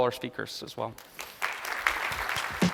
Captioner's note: applause